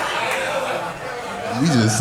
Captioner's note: audience laughing